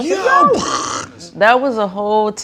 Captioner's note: imitates explosion